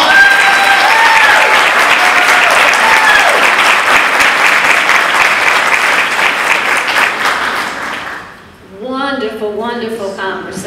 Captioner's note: applause